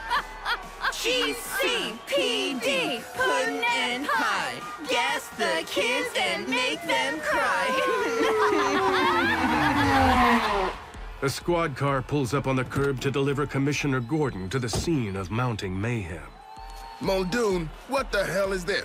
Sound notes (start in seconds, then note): 0.7 chanting; 7.6 hysterical giggling; 8.1 sirens wailing, tires squealing